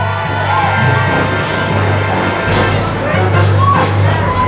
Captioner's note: crowd cheering; dramatic orchestral music